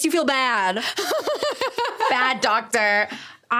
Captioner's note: laughing